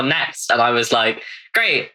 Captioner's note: laughs